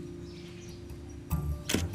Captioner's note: camera clicks